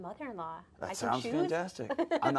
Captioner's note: laughs